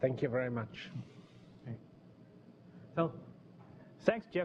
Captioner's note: pause